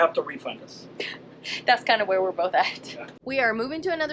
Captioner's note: laughs